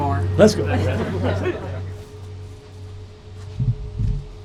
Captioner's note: people laughing